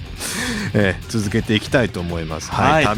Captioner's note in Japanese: 笑い